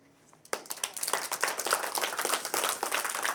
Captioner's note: audience clapping